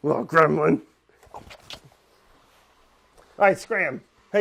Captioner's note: kiss sounds